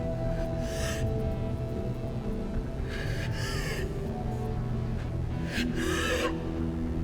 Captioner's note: labored breathing